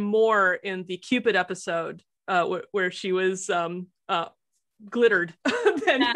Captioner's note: laughs